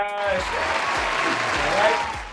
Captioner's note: applauding